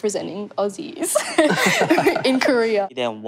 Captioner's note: both laugh